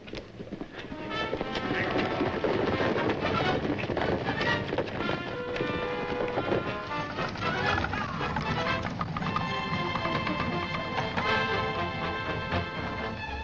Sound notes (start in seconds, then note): 0.6 dramatic music; 0.6 hooves thundering; 8.2 White Robes shouting; 8.2 chariots rumbling